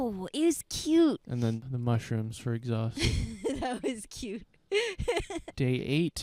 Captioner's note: laughing